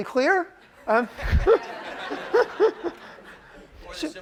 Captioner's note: chuckles